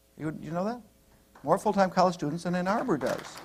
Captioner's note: applause